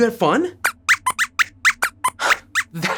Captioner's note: squeaks squeaks